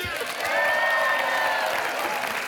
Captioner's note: cheering